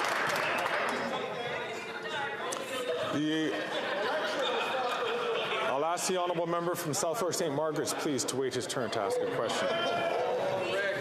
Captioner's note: some Applause